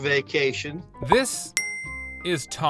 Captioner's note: bell dings